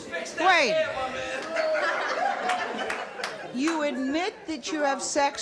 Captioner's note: audience member shouts out